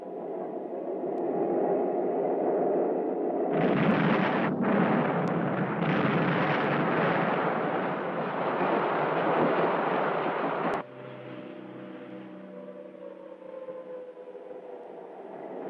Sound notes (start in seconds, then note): 3.5 explosion booming; 13.0 siren wailing